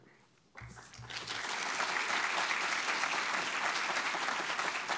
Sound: audience clapping

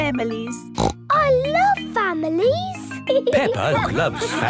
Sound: snorts

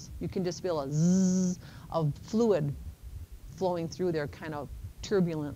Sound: buzzing

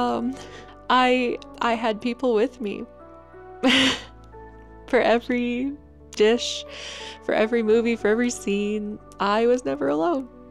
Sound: sadly laughs

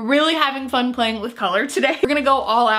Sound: laughs

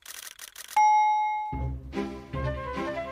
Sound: bell dings; cheerful music

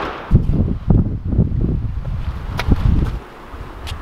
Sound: wind blowing

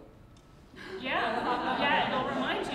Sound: crowd laughs

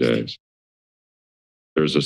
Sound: silence

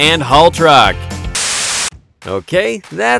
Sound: static crackling

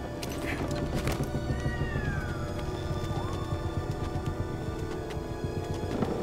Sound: log creaking

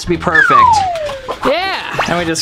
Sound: slide whistle

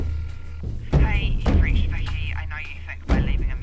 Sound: phone

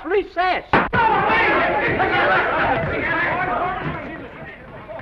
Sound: mayhem

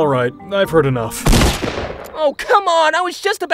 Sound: explosion booms

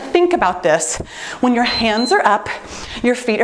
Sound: timer beeps

